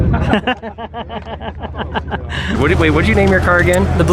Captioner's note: men laughing